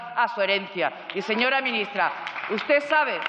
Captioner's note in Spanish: Aplausos